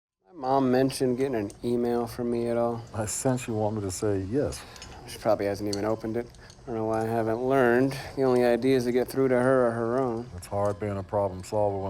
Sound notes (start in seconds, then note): 4.5 sighs